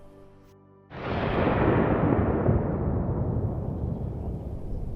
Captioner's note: explosion